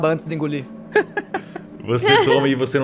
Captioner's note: laughs